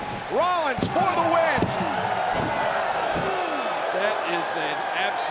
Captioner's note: crowd cheering; hands thudding